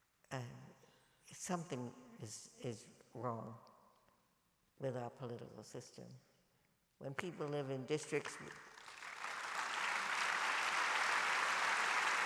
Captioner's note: applause